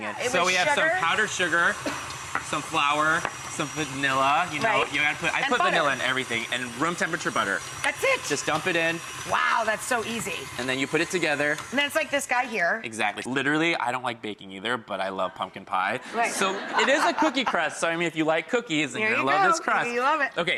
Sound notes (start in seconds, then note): 16.1 laughs